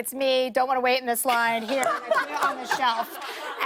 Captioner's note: laughter